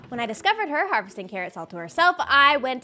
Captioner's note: none